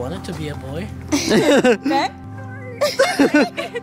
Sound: giggling

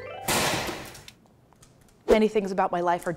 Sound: shells cracking

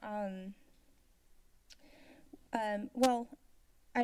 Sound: silence

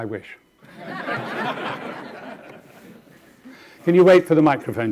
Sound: audience laughing

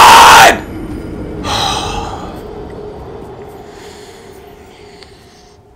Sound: siiiggggghhhhh

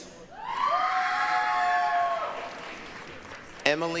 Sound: applause, cheering

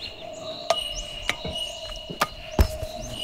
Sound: metallic taps

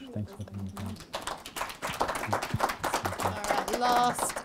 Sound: applause

